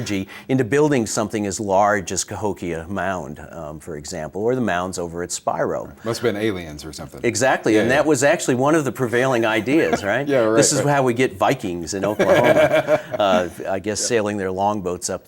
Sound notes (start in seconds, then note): 9.1 laughing